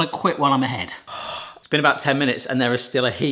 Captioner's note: exhales